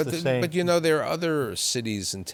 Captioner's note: laughter